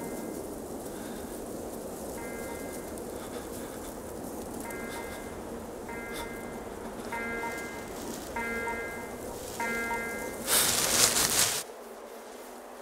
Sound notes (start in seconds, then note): 0.2 a distant alarm; 5.8 alarm